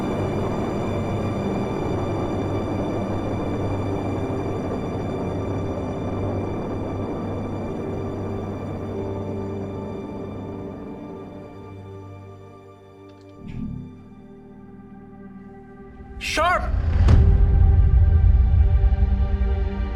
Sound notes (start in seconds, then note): 13.2 key clicking; 13.2 machine humming; 17.1 dramatic music